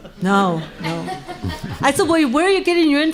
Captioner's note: laughing